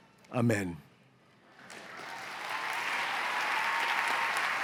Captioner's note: cheers and applause